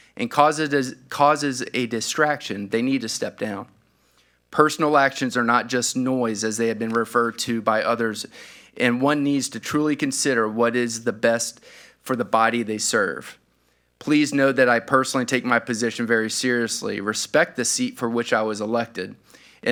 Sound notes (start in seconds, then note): none